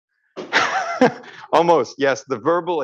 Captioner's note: chuckles